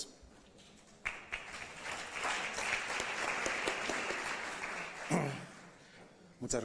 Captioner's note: applause